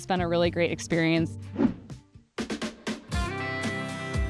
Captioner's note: air whooshes; spirited music